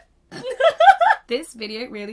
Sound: laughing

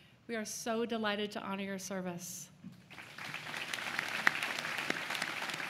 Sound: applause

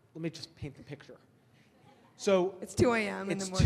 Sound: audience laughs

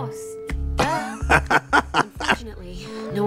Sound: Trixie titters

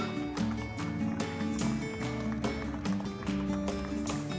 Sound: people clapping

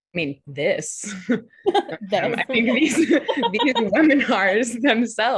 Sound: laughs

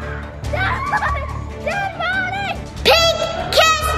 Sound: chuckles

